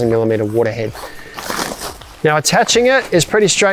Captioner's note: fabric rustling